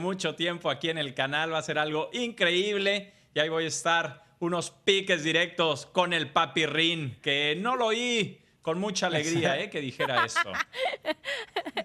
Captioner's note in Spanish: risas